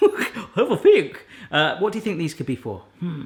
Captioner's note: laughs; in funny voice; in normal voice